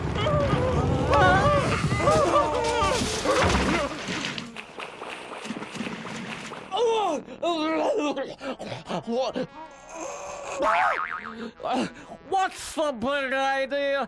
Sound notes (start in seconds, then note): 6.5 Honk just speaking gibberish